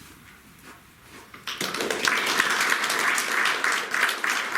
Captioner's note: audience applauding